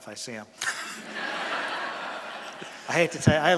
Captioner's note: laughter from audience